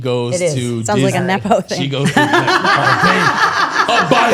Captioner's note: laughs